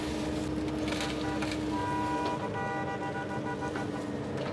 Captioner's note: truck horn